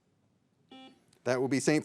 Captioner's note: signal beeps